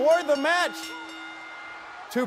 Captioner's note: bell ringing